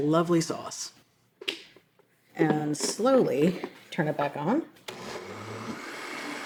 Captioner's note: blender whirring